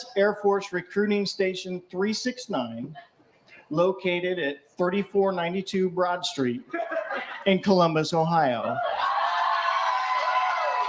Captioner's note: cheering